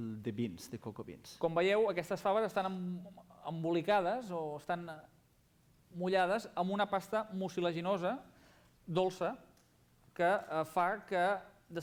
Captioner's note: non-english speech